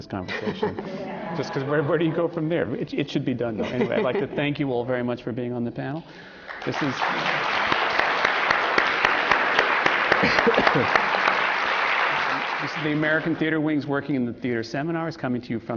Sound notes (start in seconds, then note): 0.4 laughter; 9.1 applause